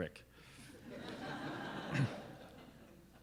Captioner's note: laughing